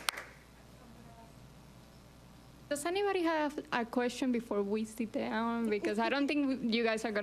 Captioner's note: applause